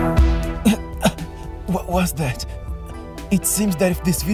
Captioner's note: cough